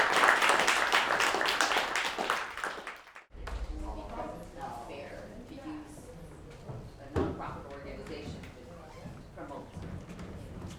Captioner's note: applause